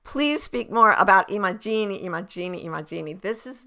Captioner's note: speaks in a foreign language